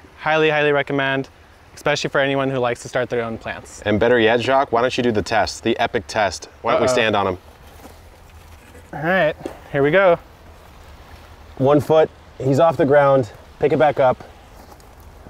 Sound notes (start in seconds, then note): none